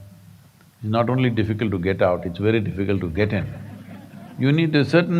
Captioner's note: laughter